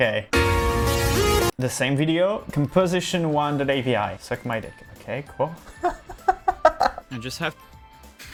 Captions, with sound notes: Okay. The same video. Composition1.avi. "Suck my dick". Okay, cool. (laughing) I just have.